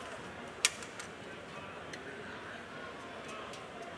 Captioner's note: crowd chattering